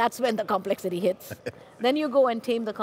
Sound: giggling

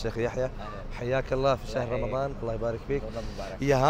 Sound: Arabic

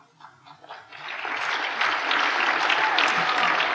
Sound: applause

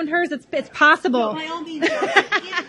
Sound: crowd noise drowns speaker; laughs softly

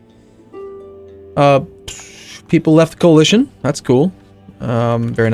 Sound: sound through teeth

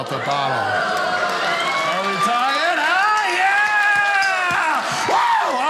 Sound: audience cheering

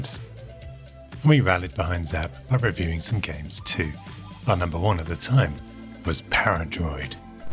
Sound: classic game sounds

